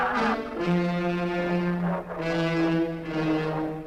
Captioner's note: engine humming